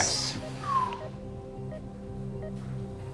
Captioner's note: whistles